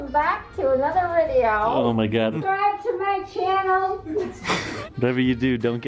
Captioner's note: laughs